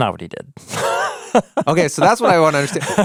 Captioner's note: laughing